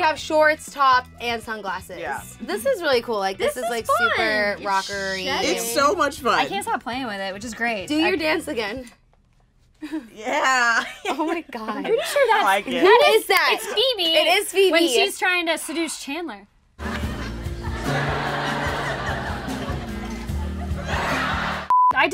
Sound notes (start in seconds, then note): 9.8 laughs; 16.8 audience laughs; 16.8 soft guitar music; 18.0 beep